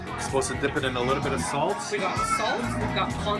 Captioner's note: none